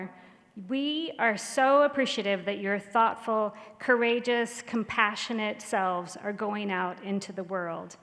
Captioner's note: none